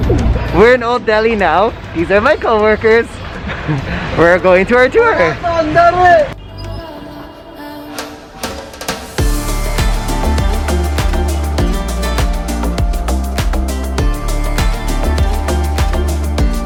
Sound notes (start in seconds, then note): 5.5 man shouting in backround; 6.4 indian music playing